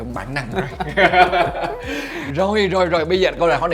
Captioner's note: laugh